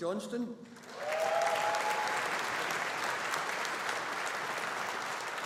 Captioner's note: audience applauding